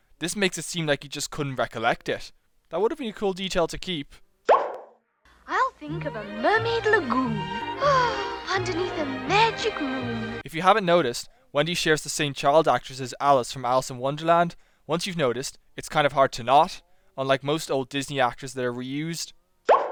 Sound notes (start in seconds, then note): 8.2 sighs